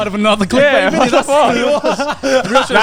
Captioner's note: laughs loudly